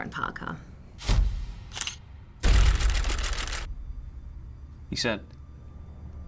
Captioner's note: screen crashing; camera shutters clicking